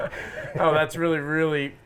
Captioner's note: laughter